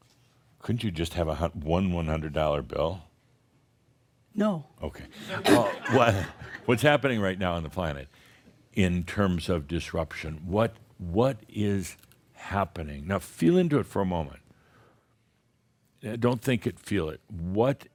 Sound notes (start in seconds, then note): 5.3 some chuckles